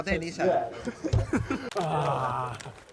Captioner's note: groan